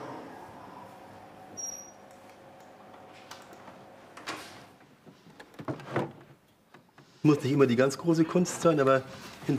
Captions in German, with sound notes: (Quietschen) Es muss nicht immer die ganz große Kunst sein.